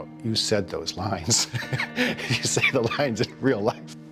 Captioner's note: laughs